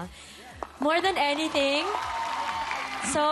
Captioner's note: applause